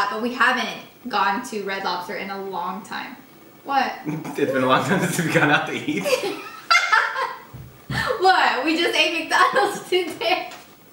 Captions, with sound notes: but we haven't gone to Red Lobster in a long time. What? - It's been a long time since we've gone out to eat? (laughter) - What, we just ate McDonald's today.